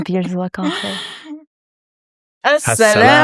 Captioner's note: speaking foreign language